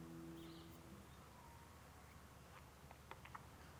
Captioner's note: birds chirping